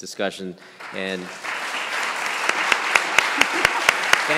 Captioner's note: applause